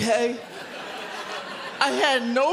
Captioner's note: audience laughs